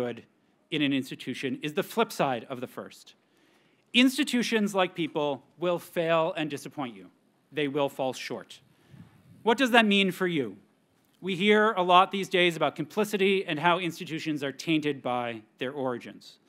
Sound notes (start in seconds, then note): none